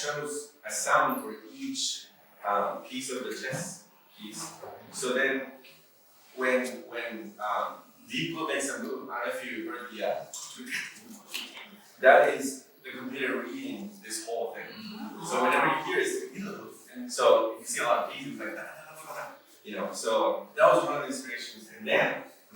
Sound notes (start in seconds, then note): 9.8 computer noise; 14.7 audience aahs in understanding